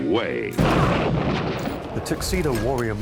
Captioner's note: loud explosion blast